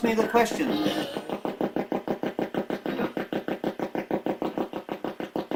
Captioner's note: ghost box buzzing